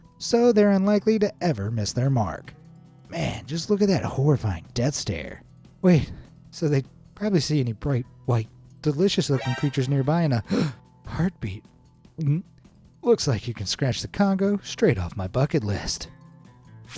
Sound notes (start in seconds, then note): 10.5 gasps